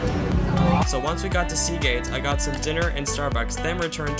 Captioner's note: voiceover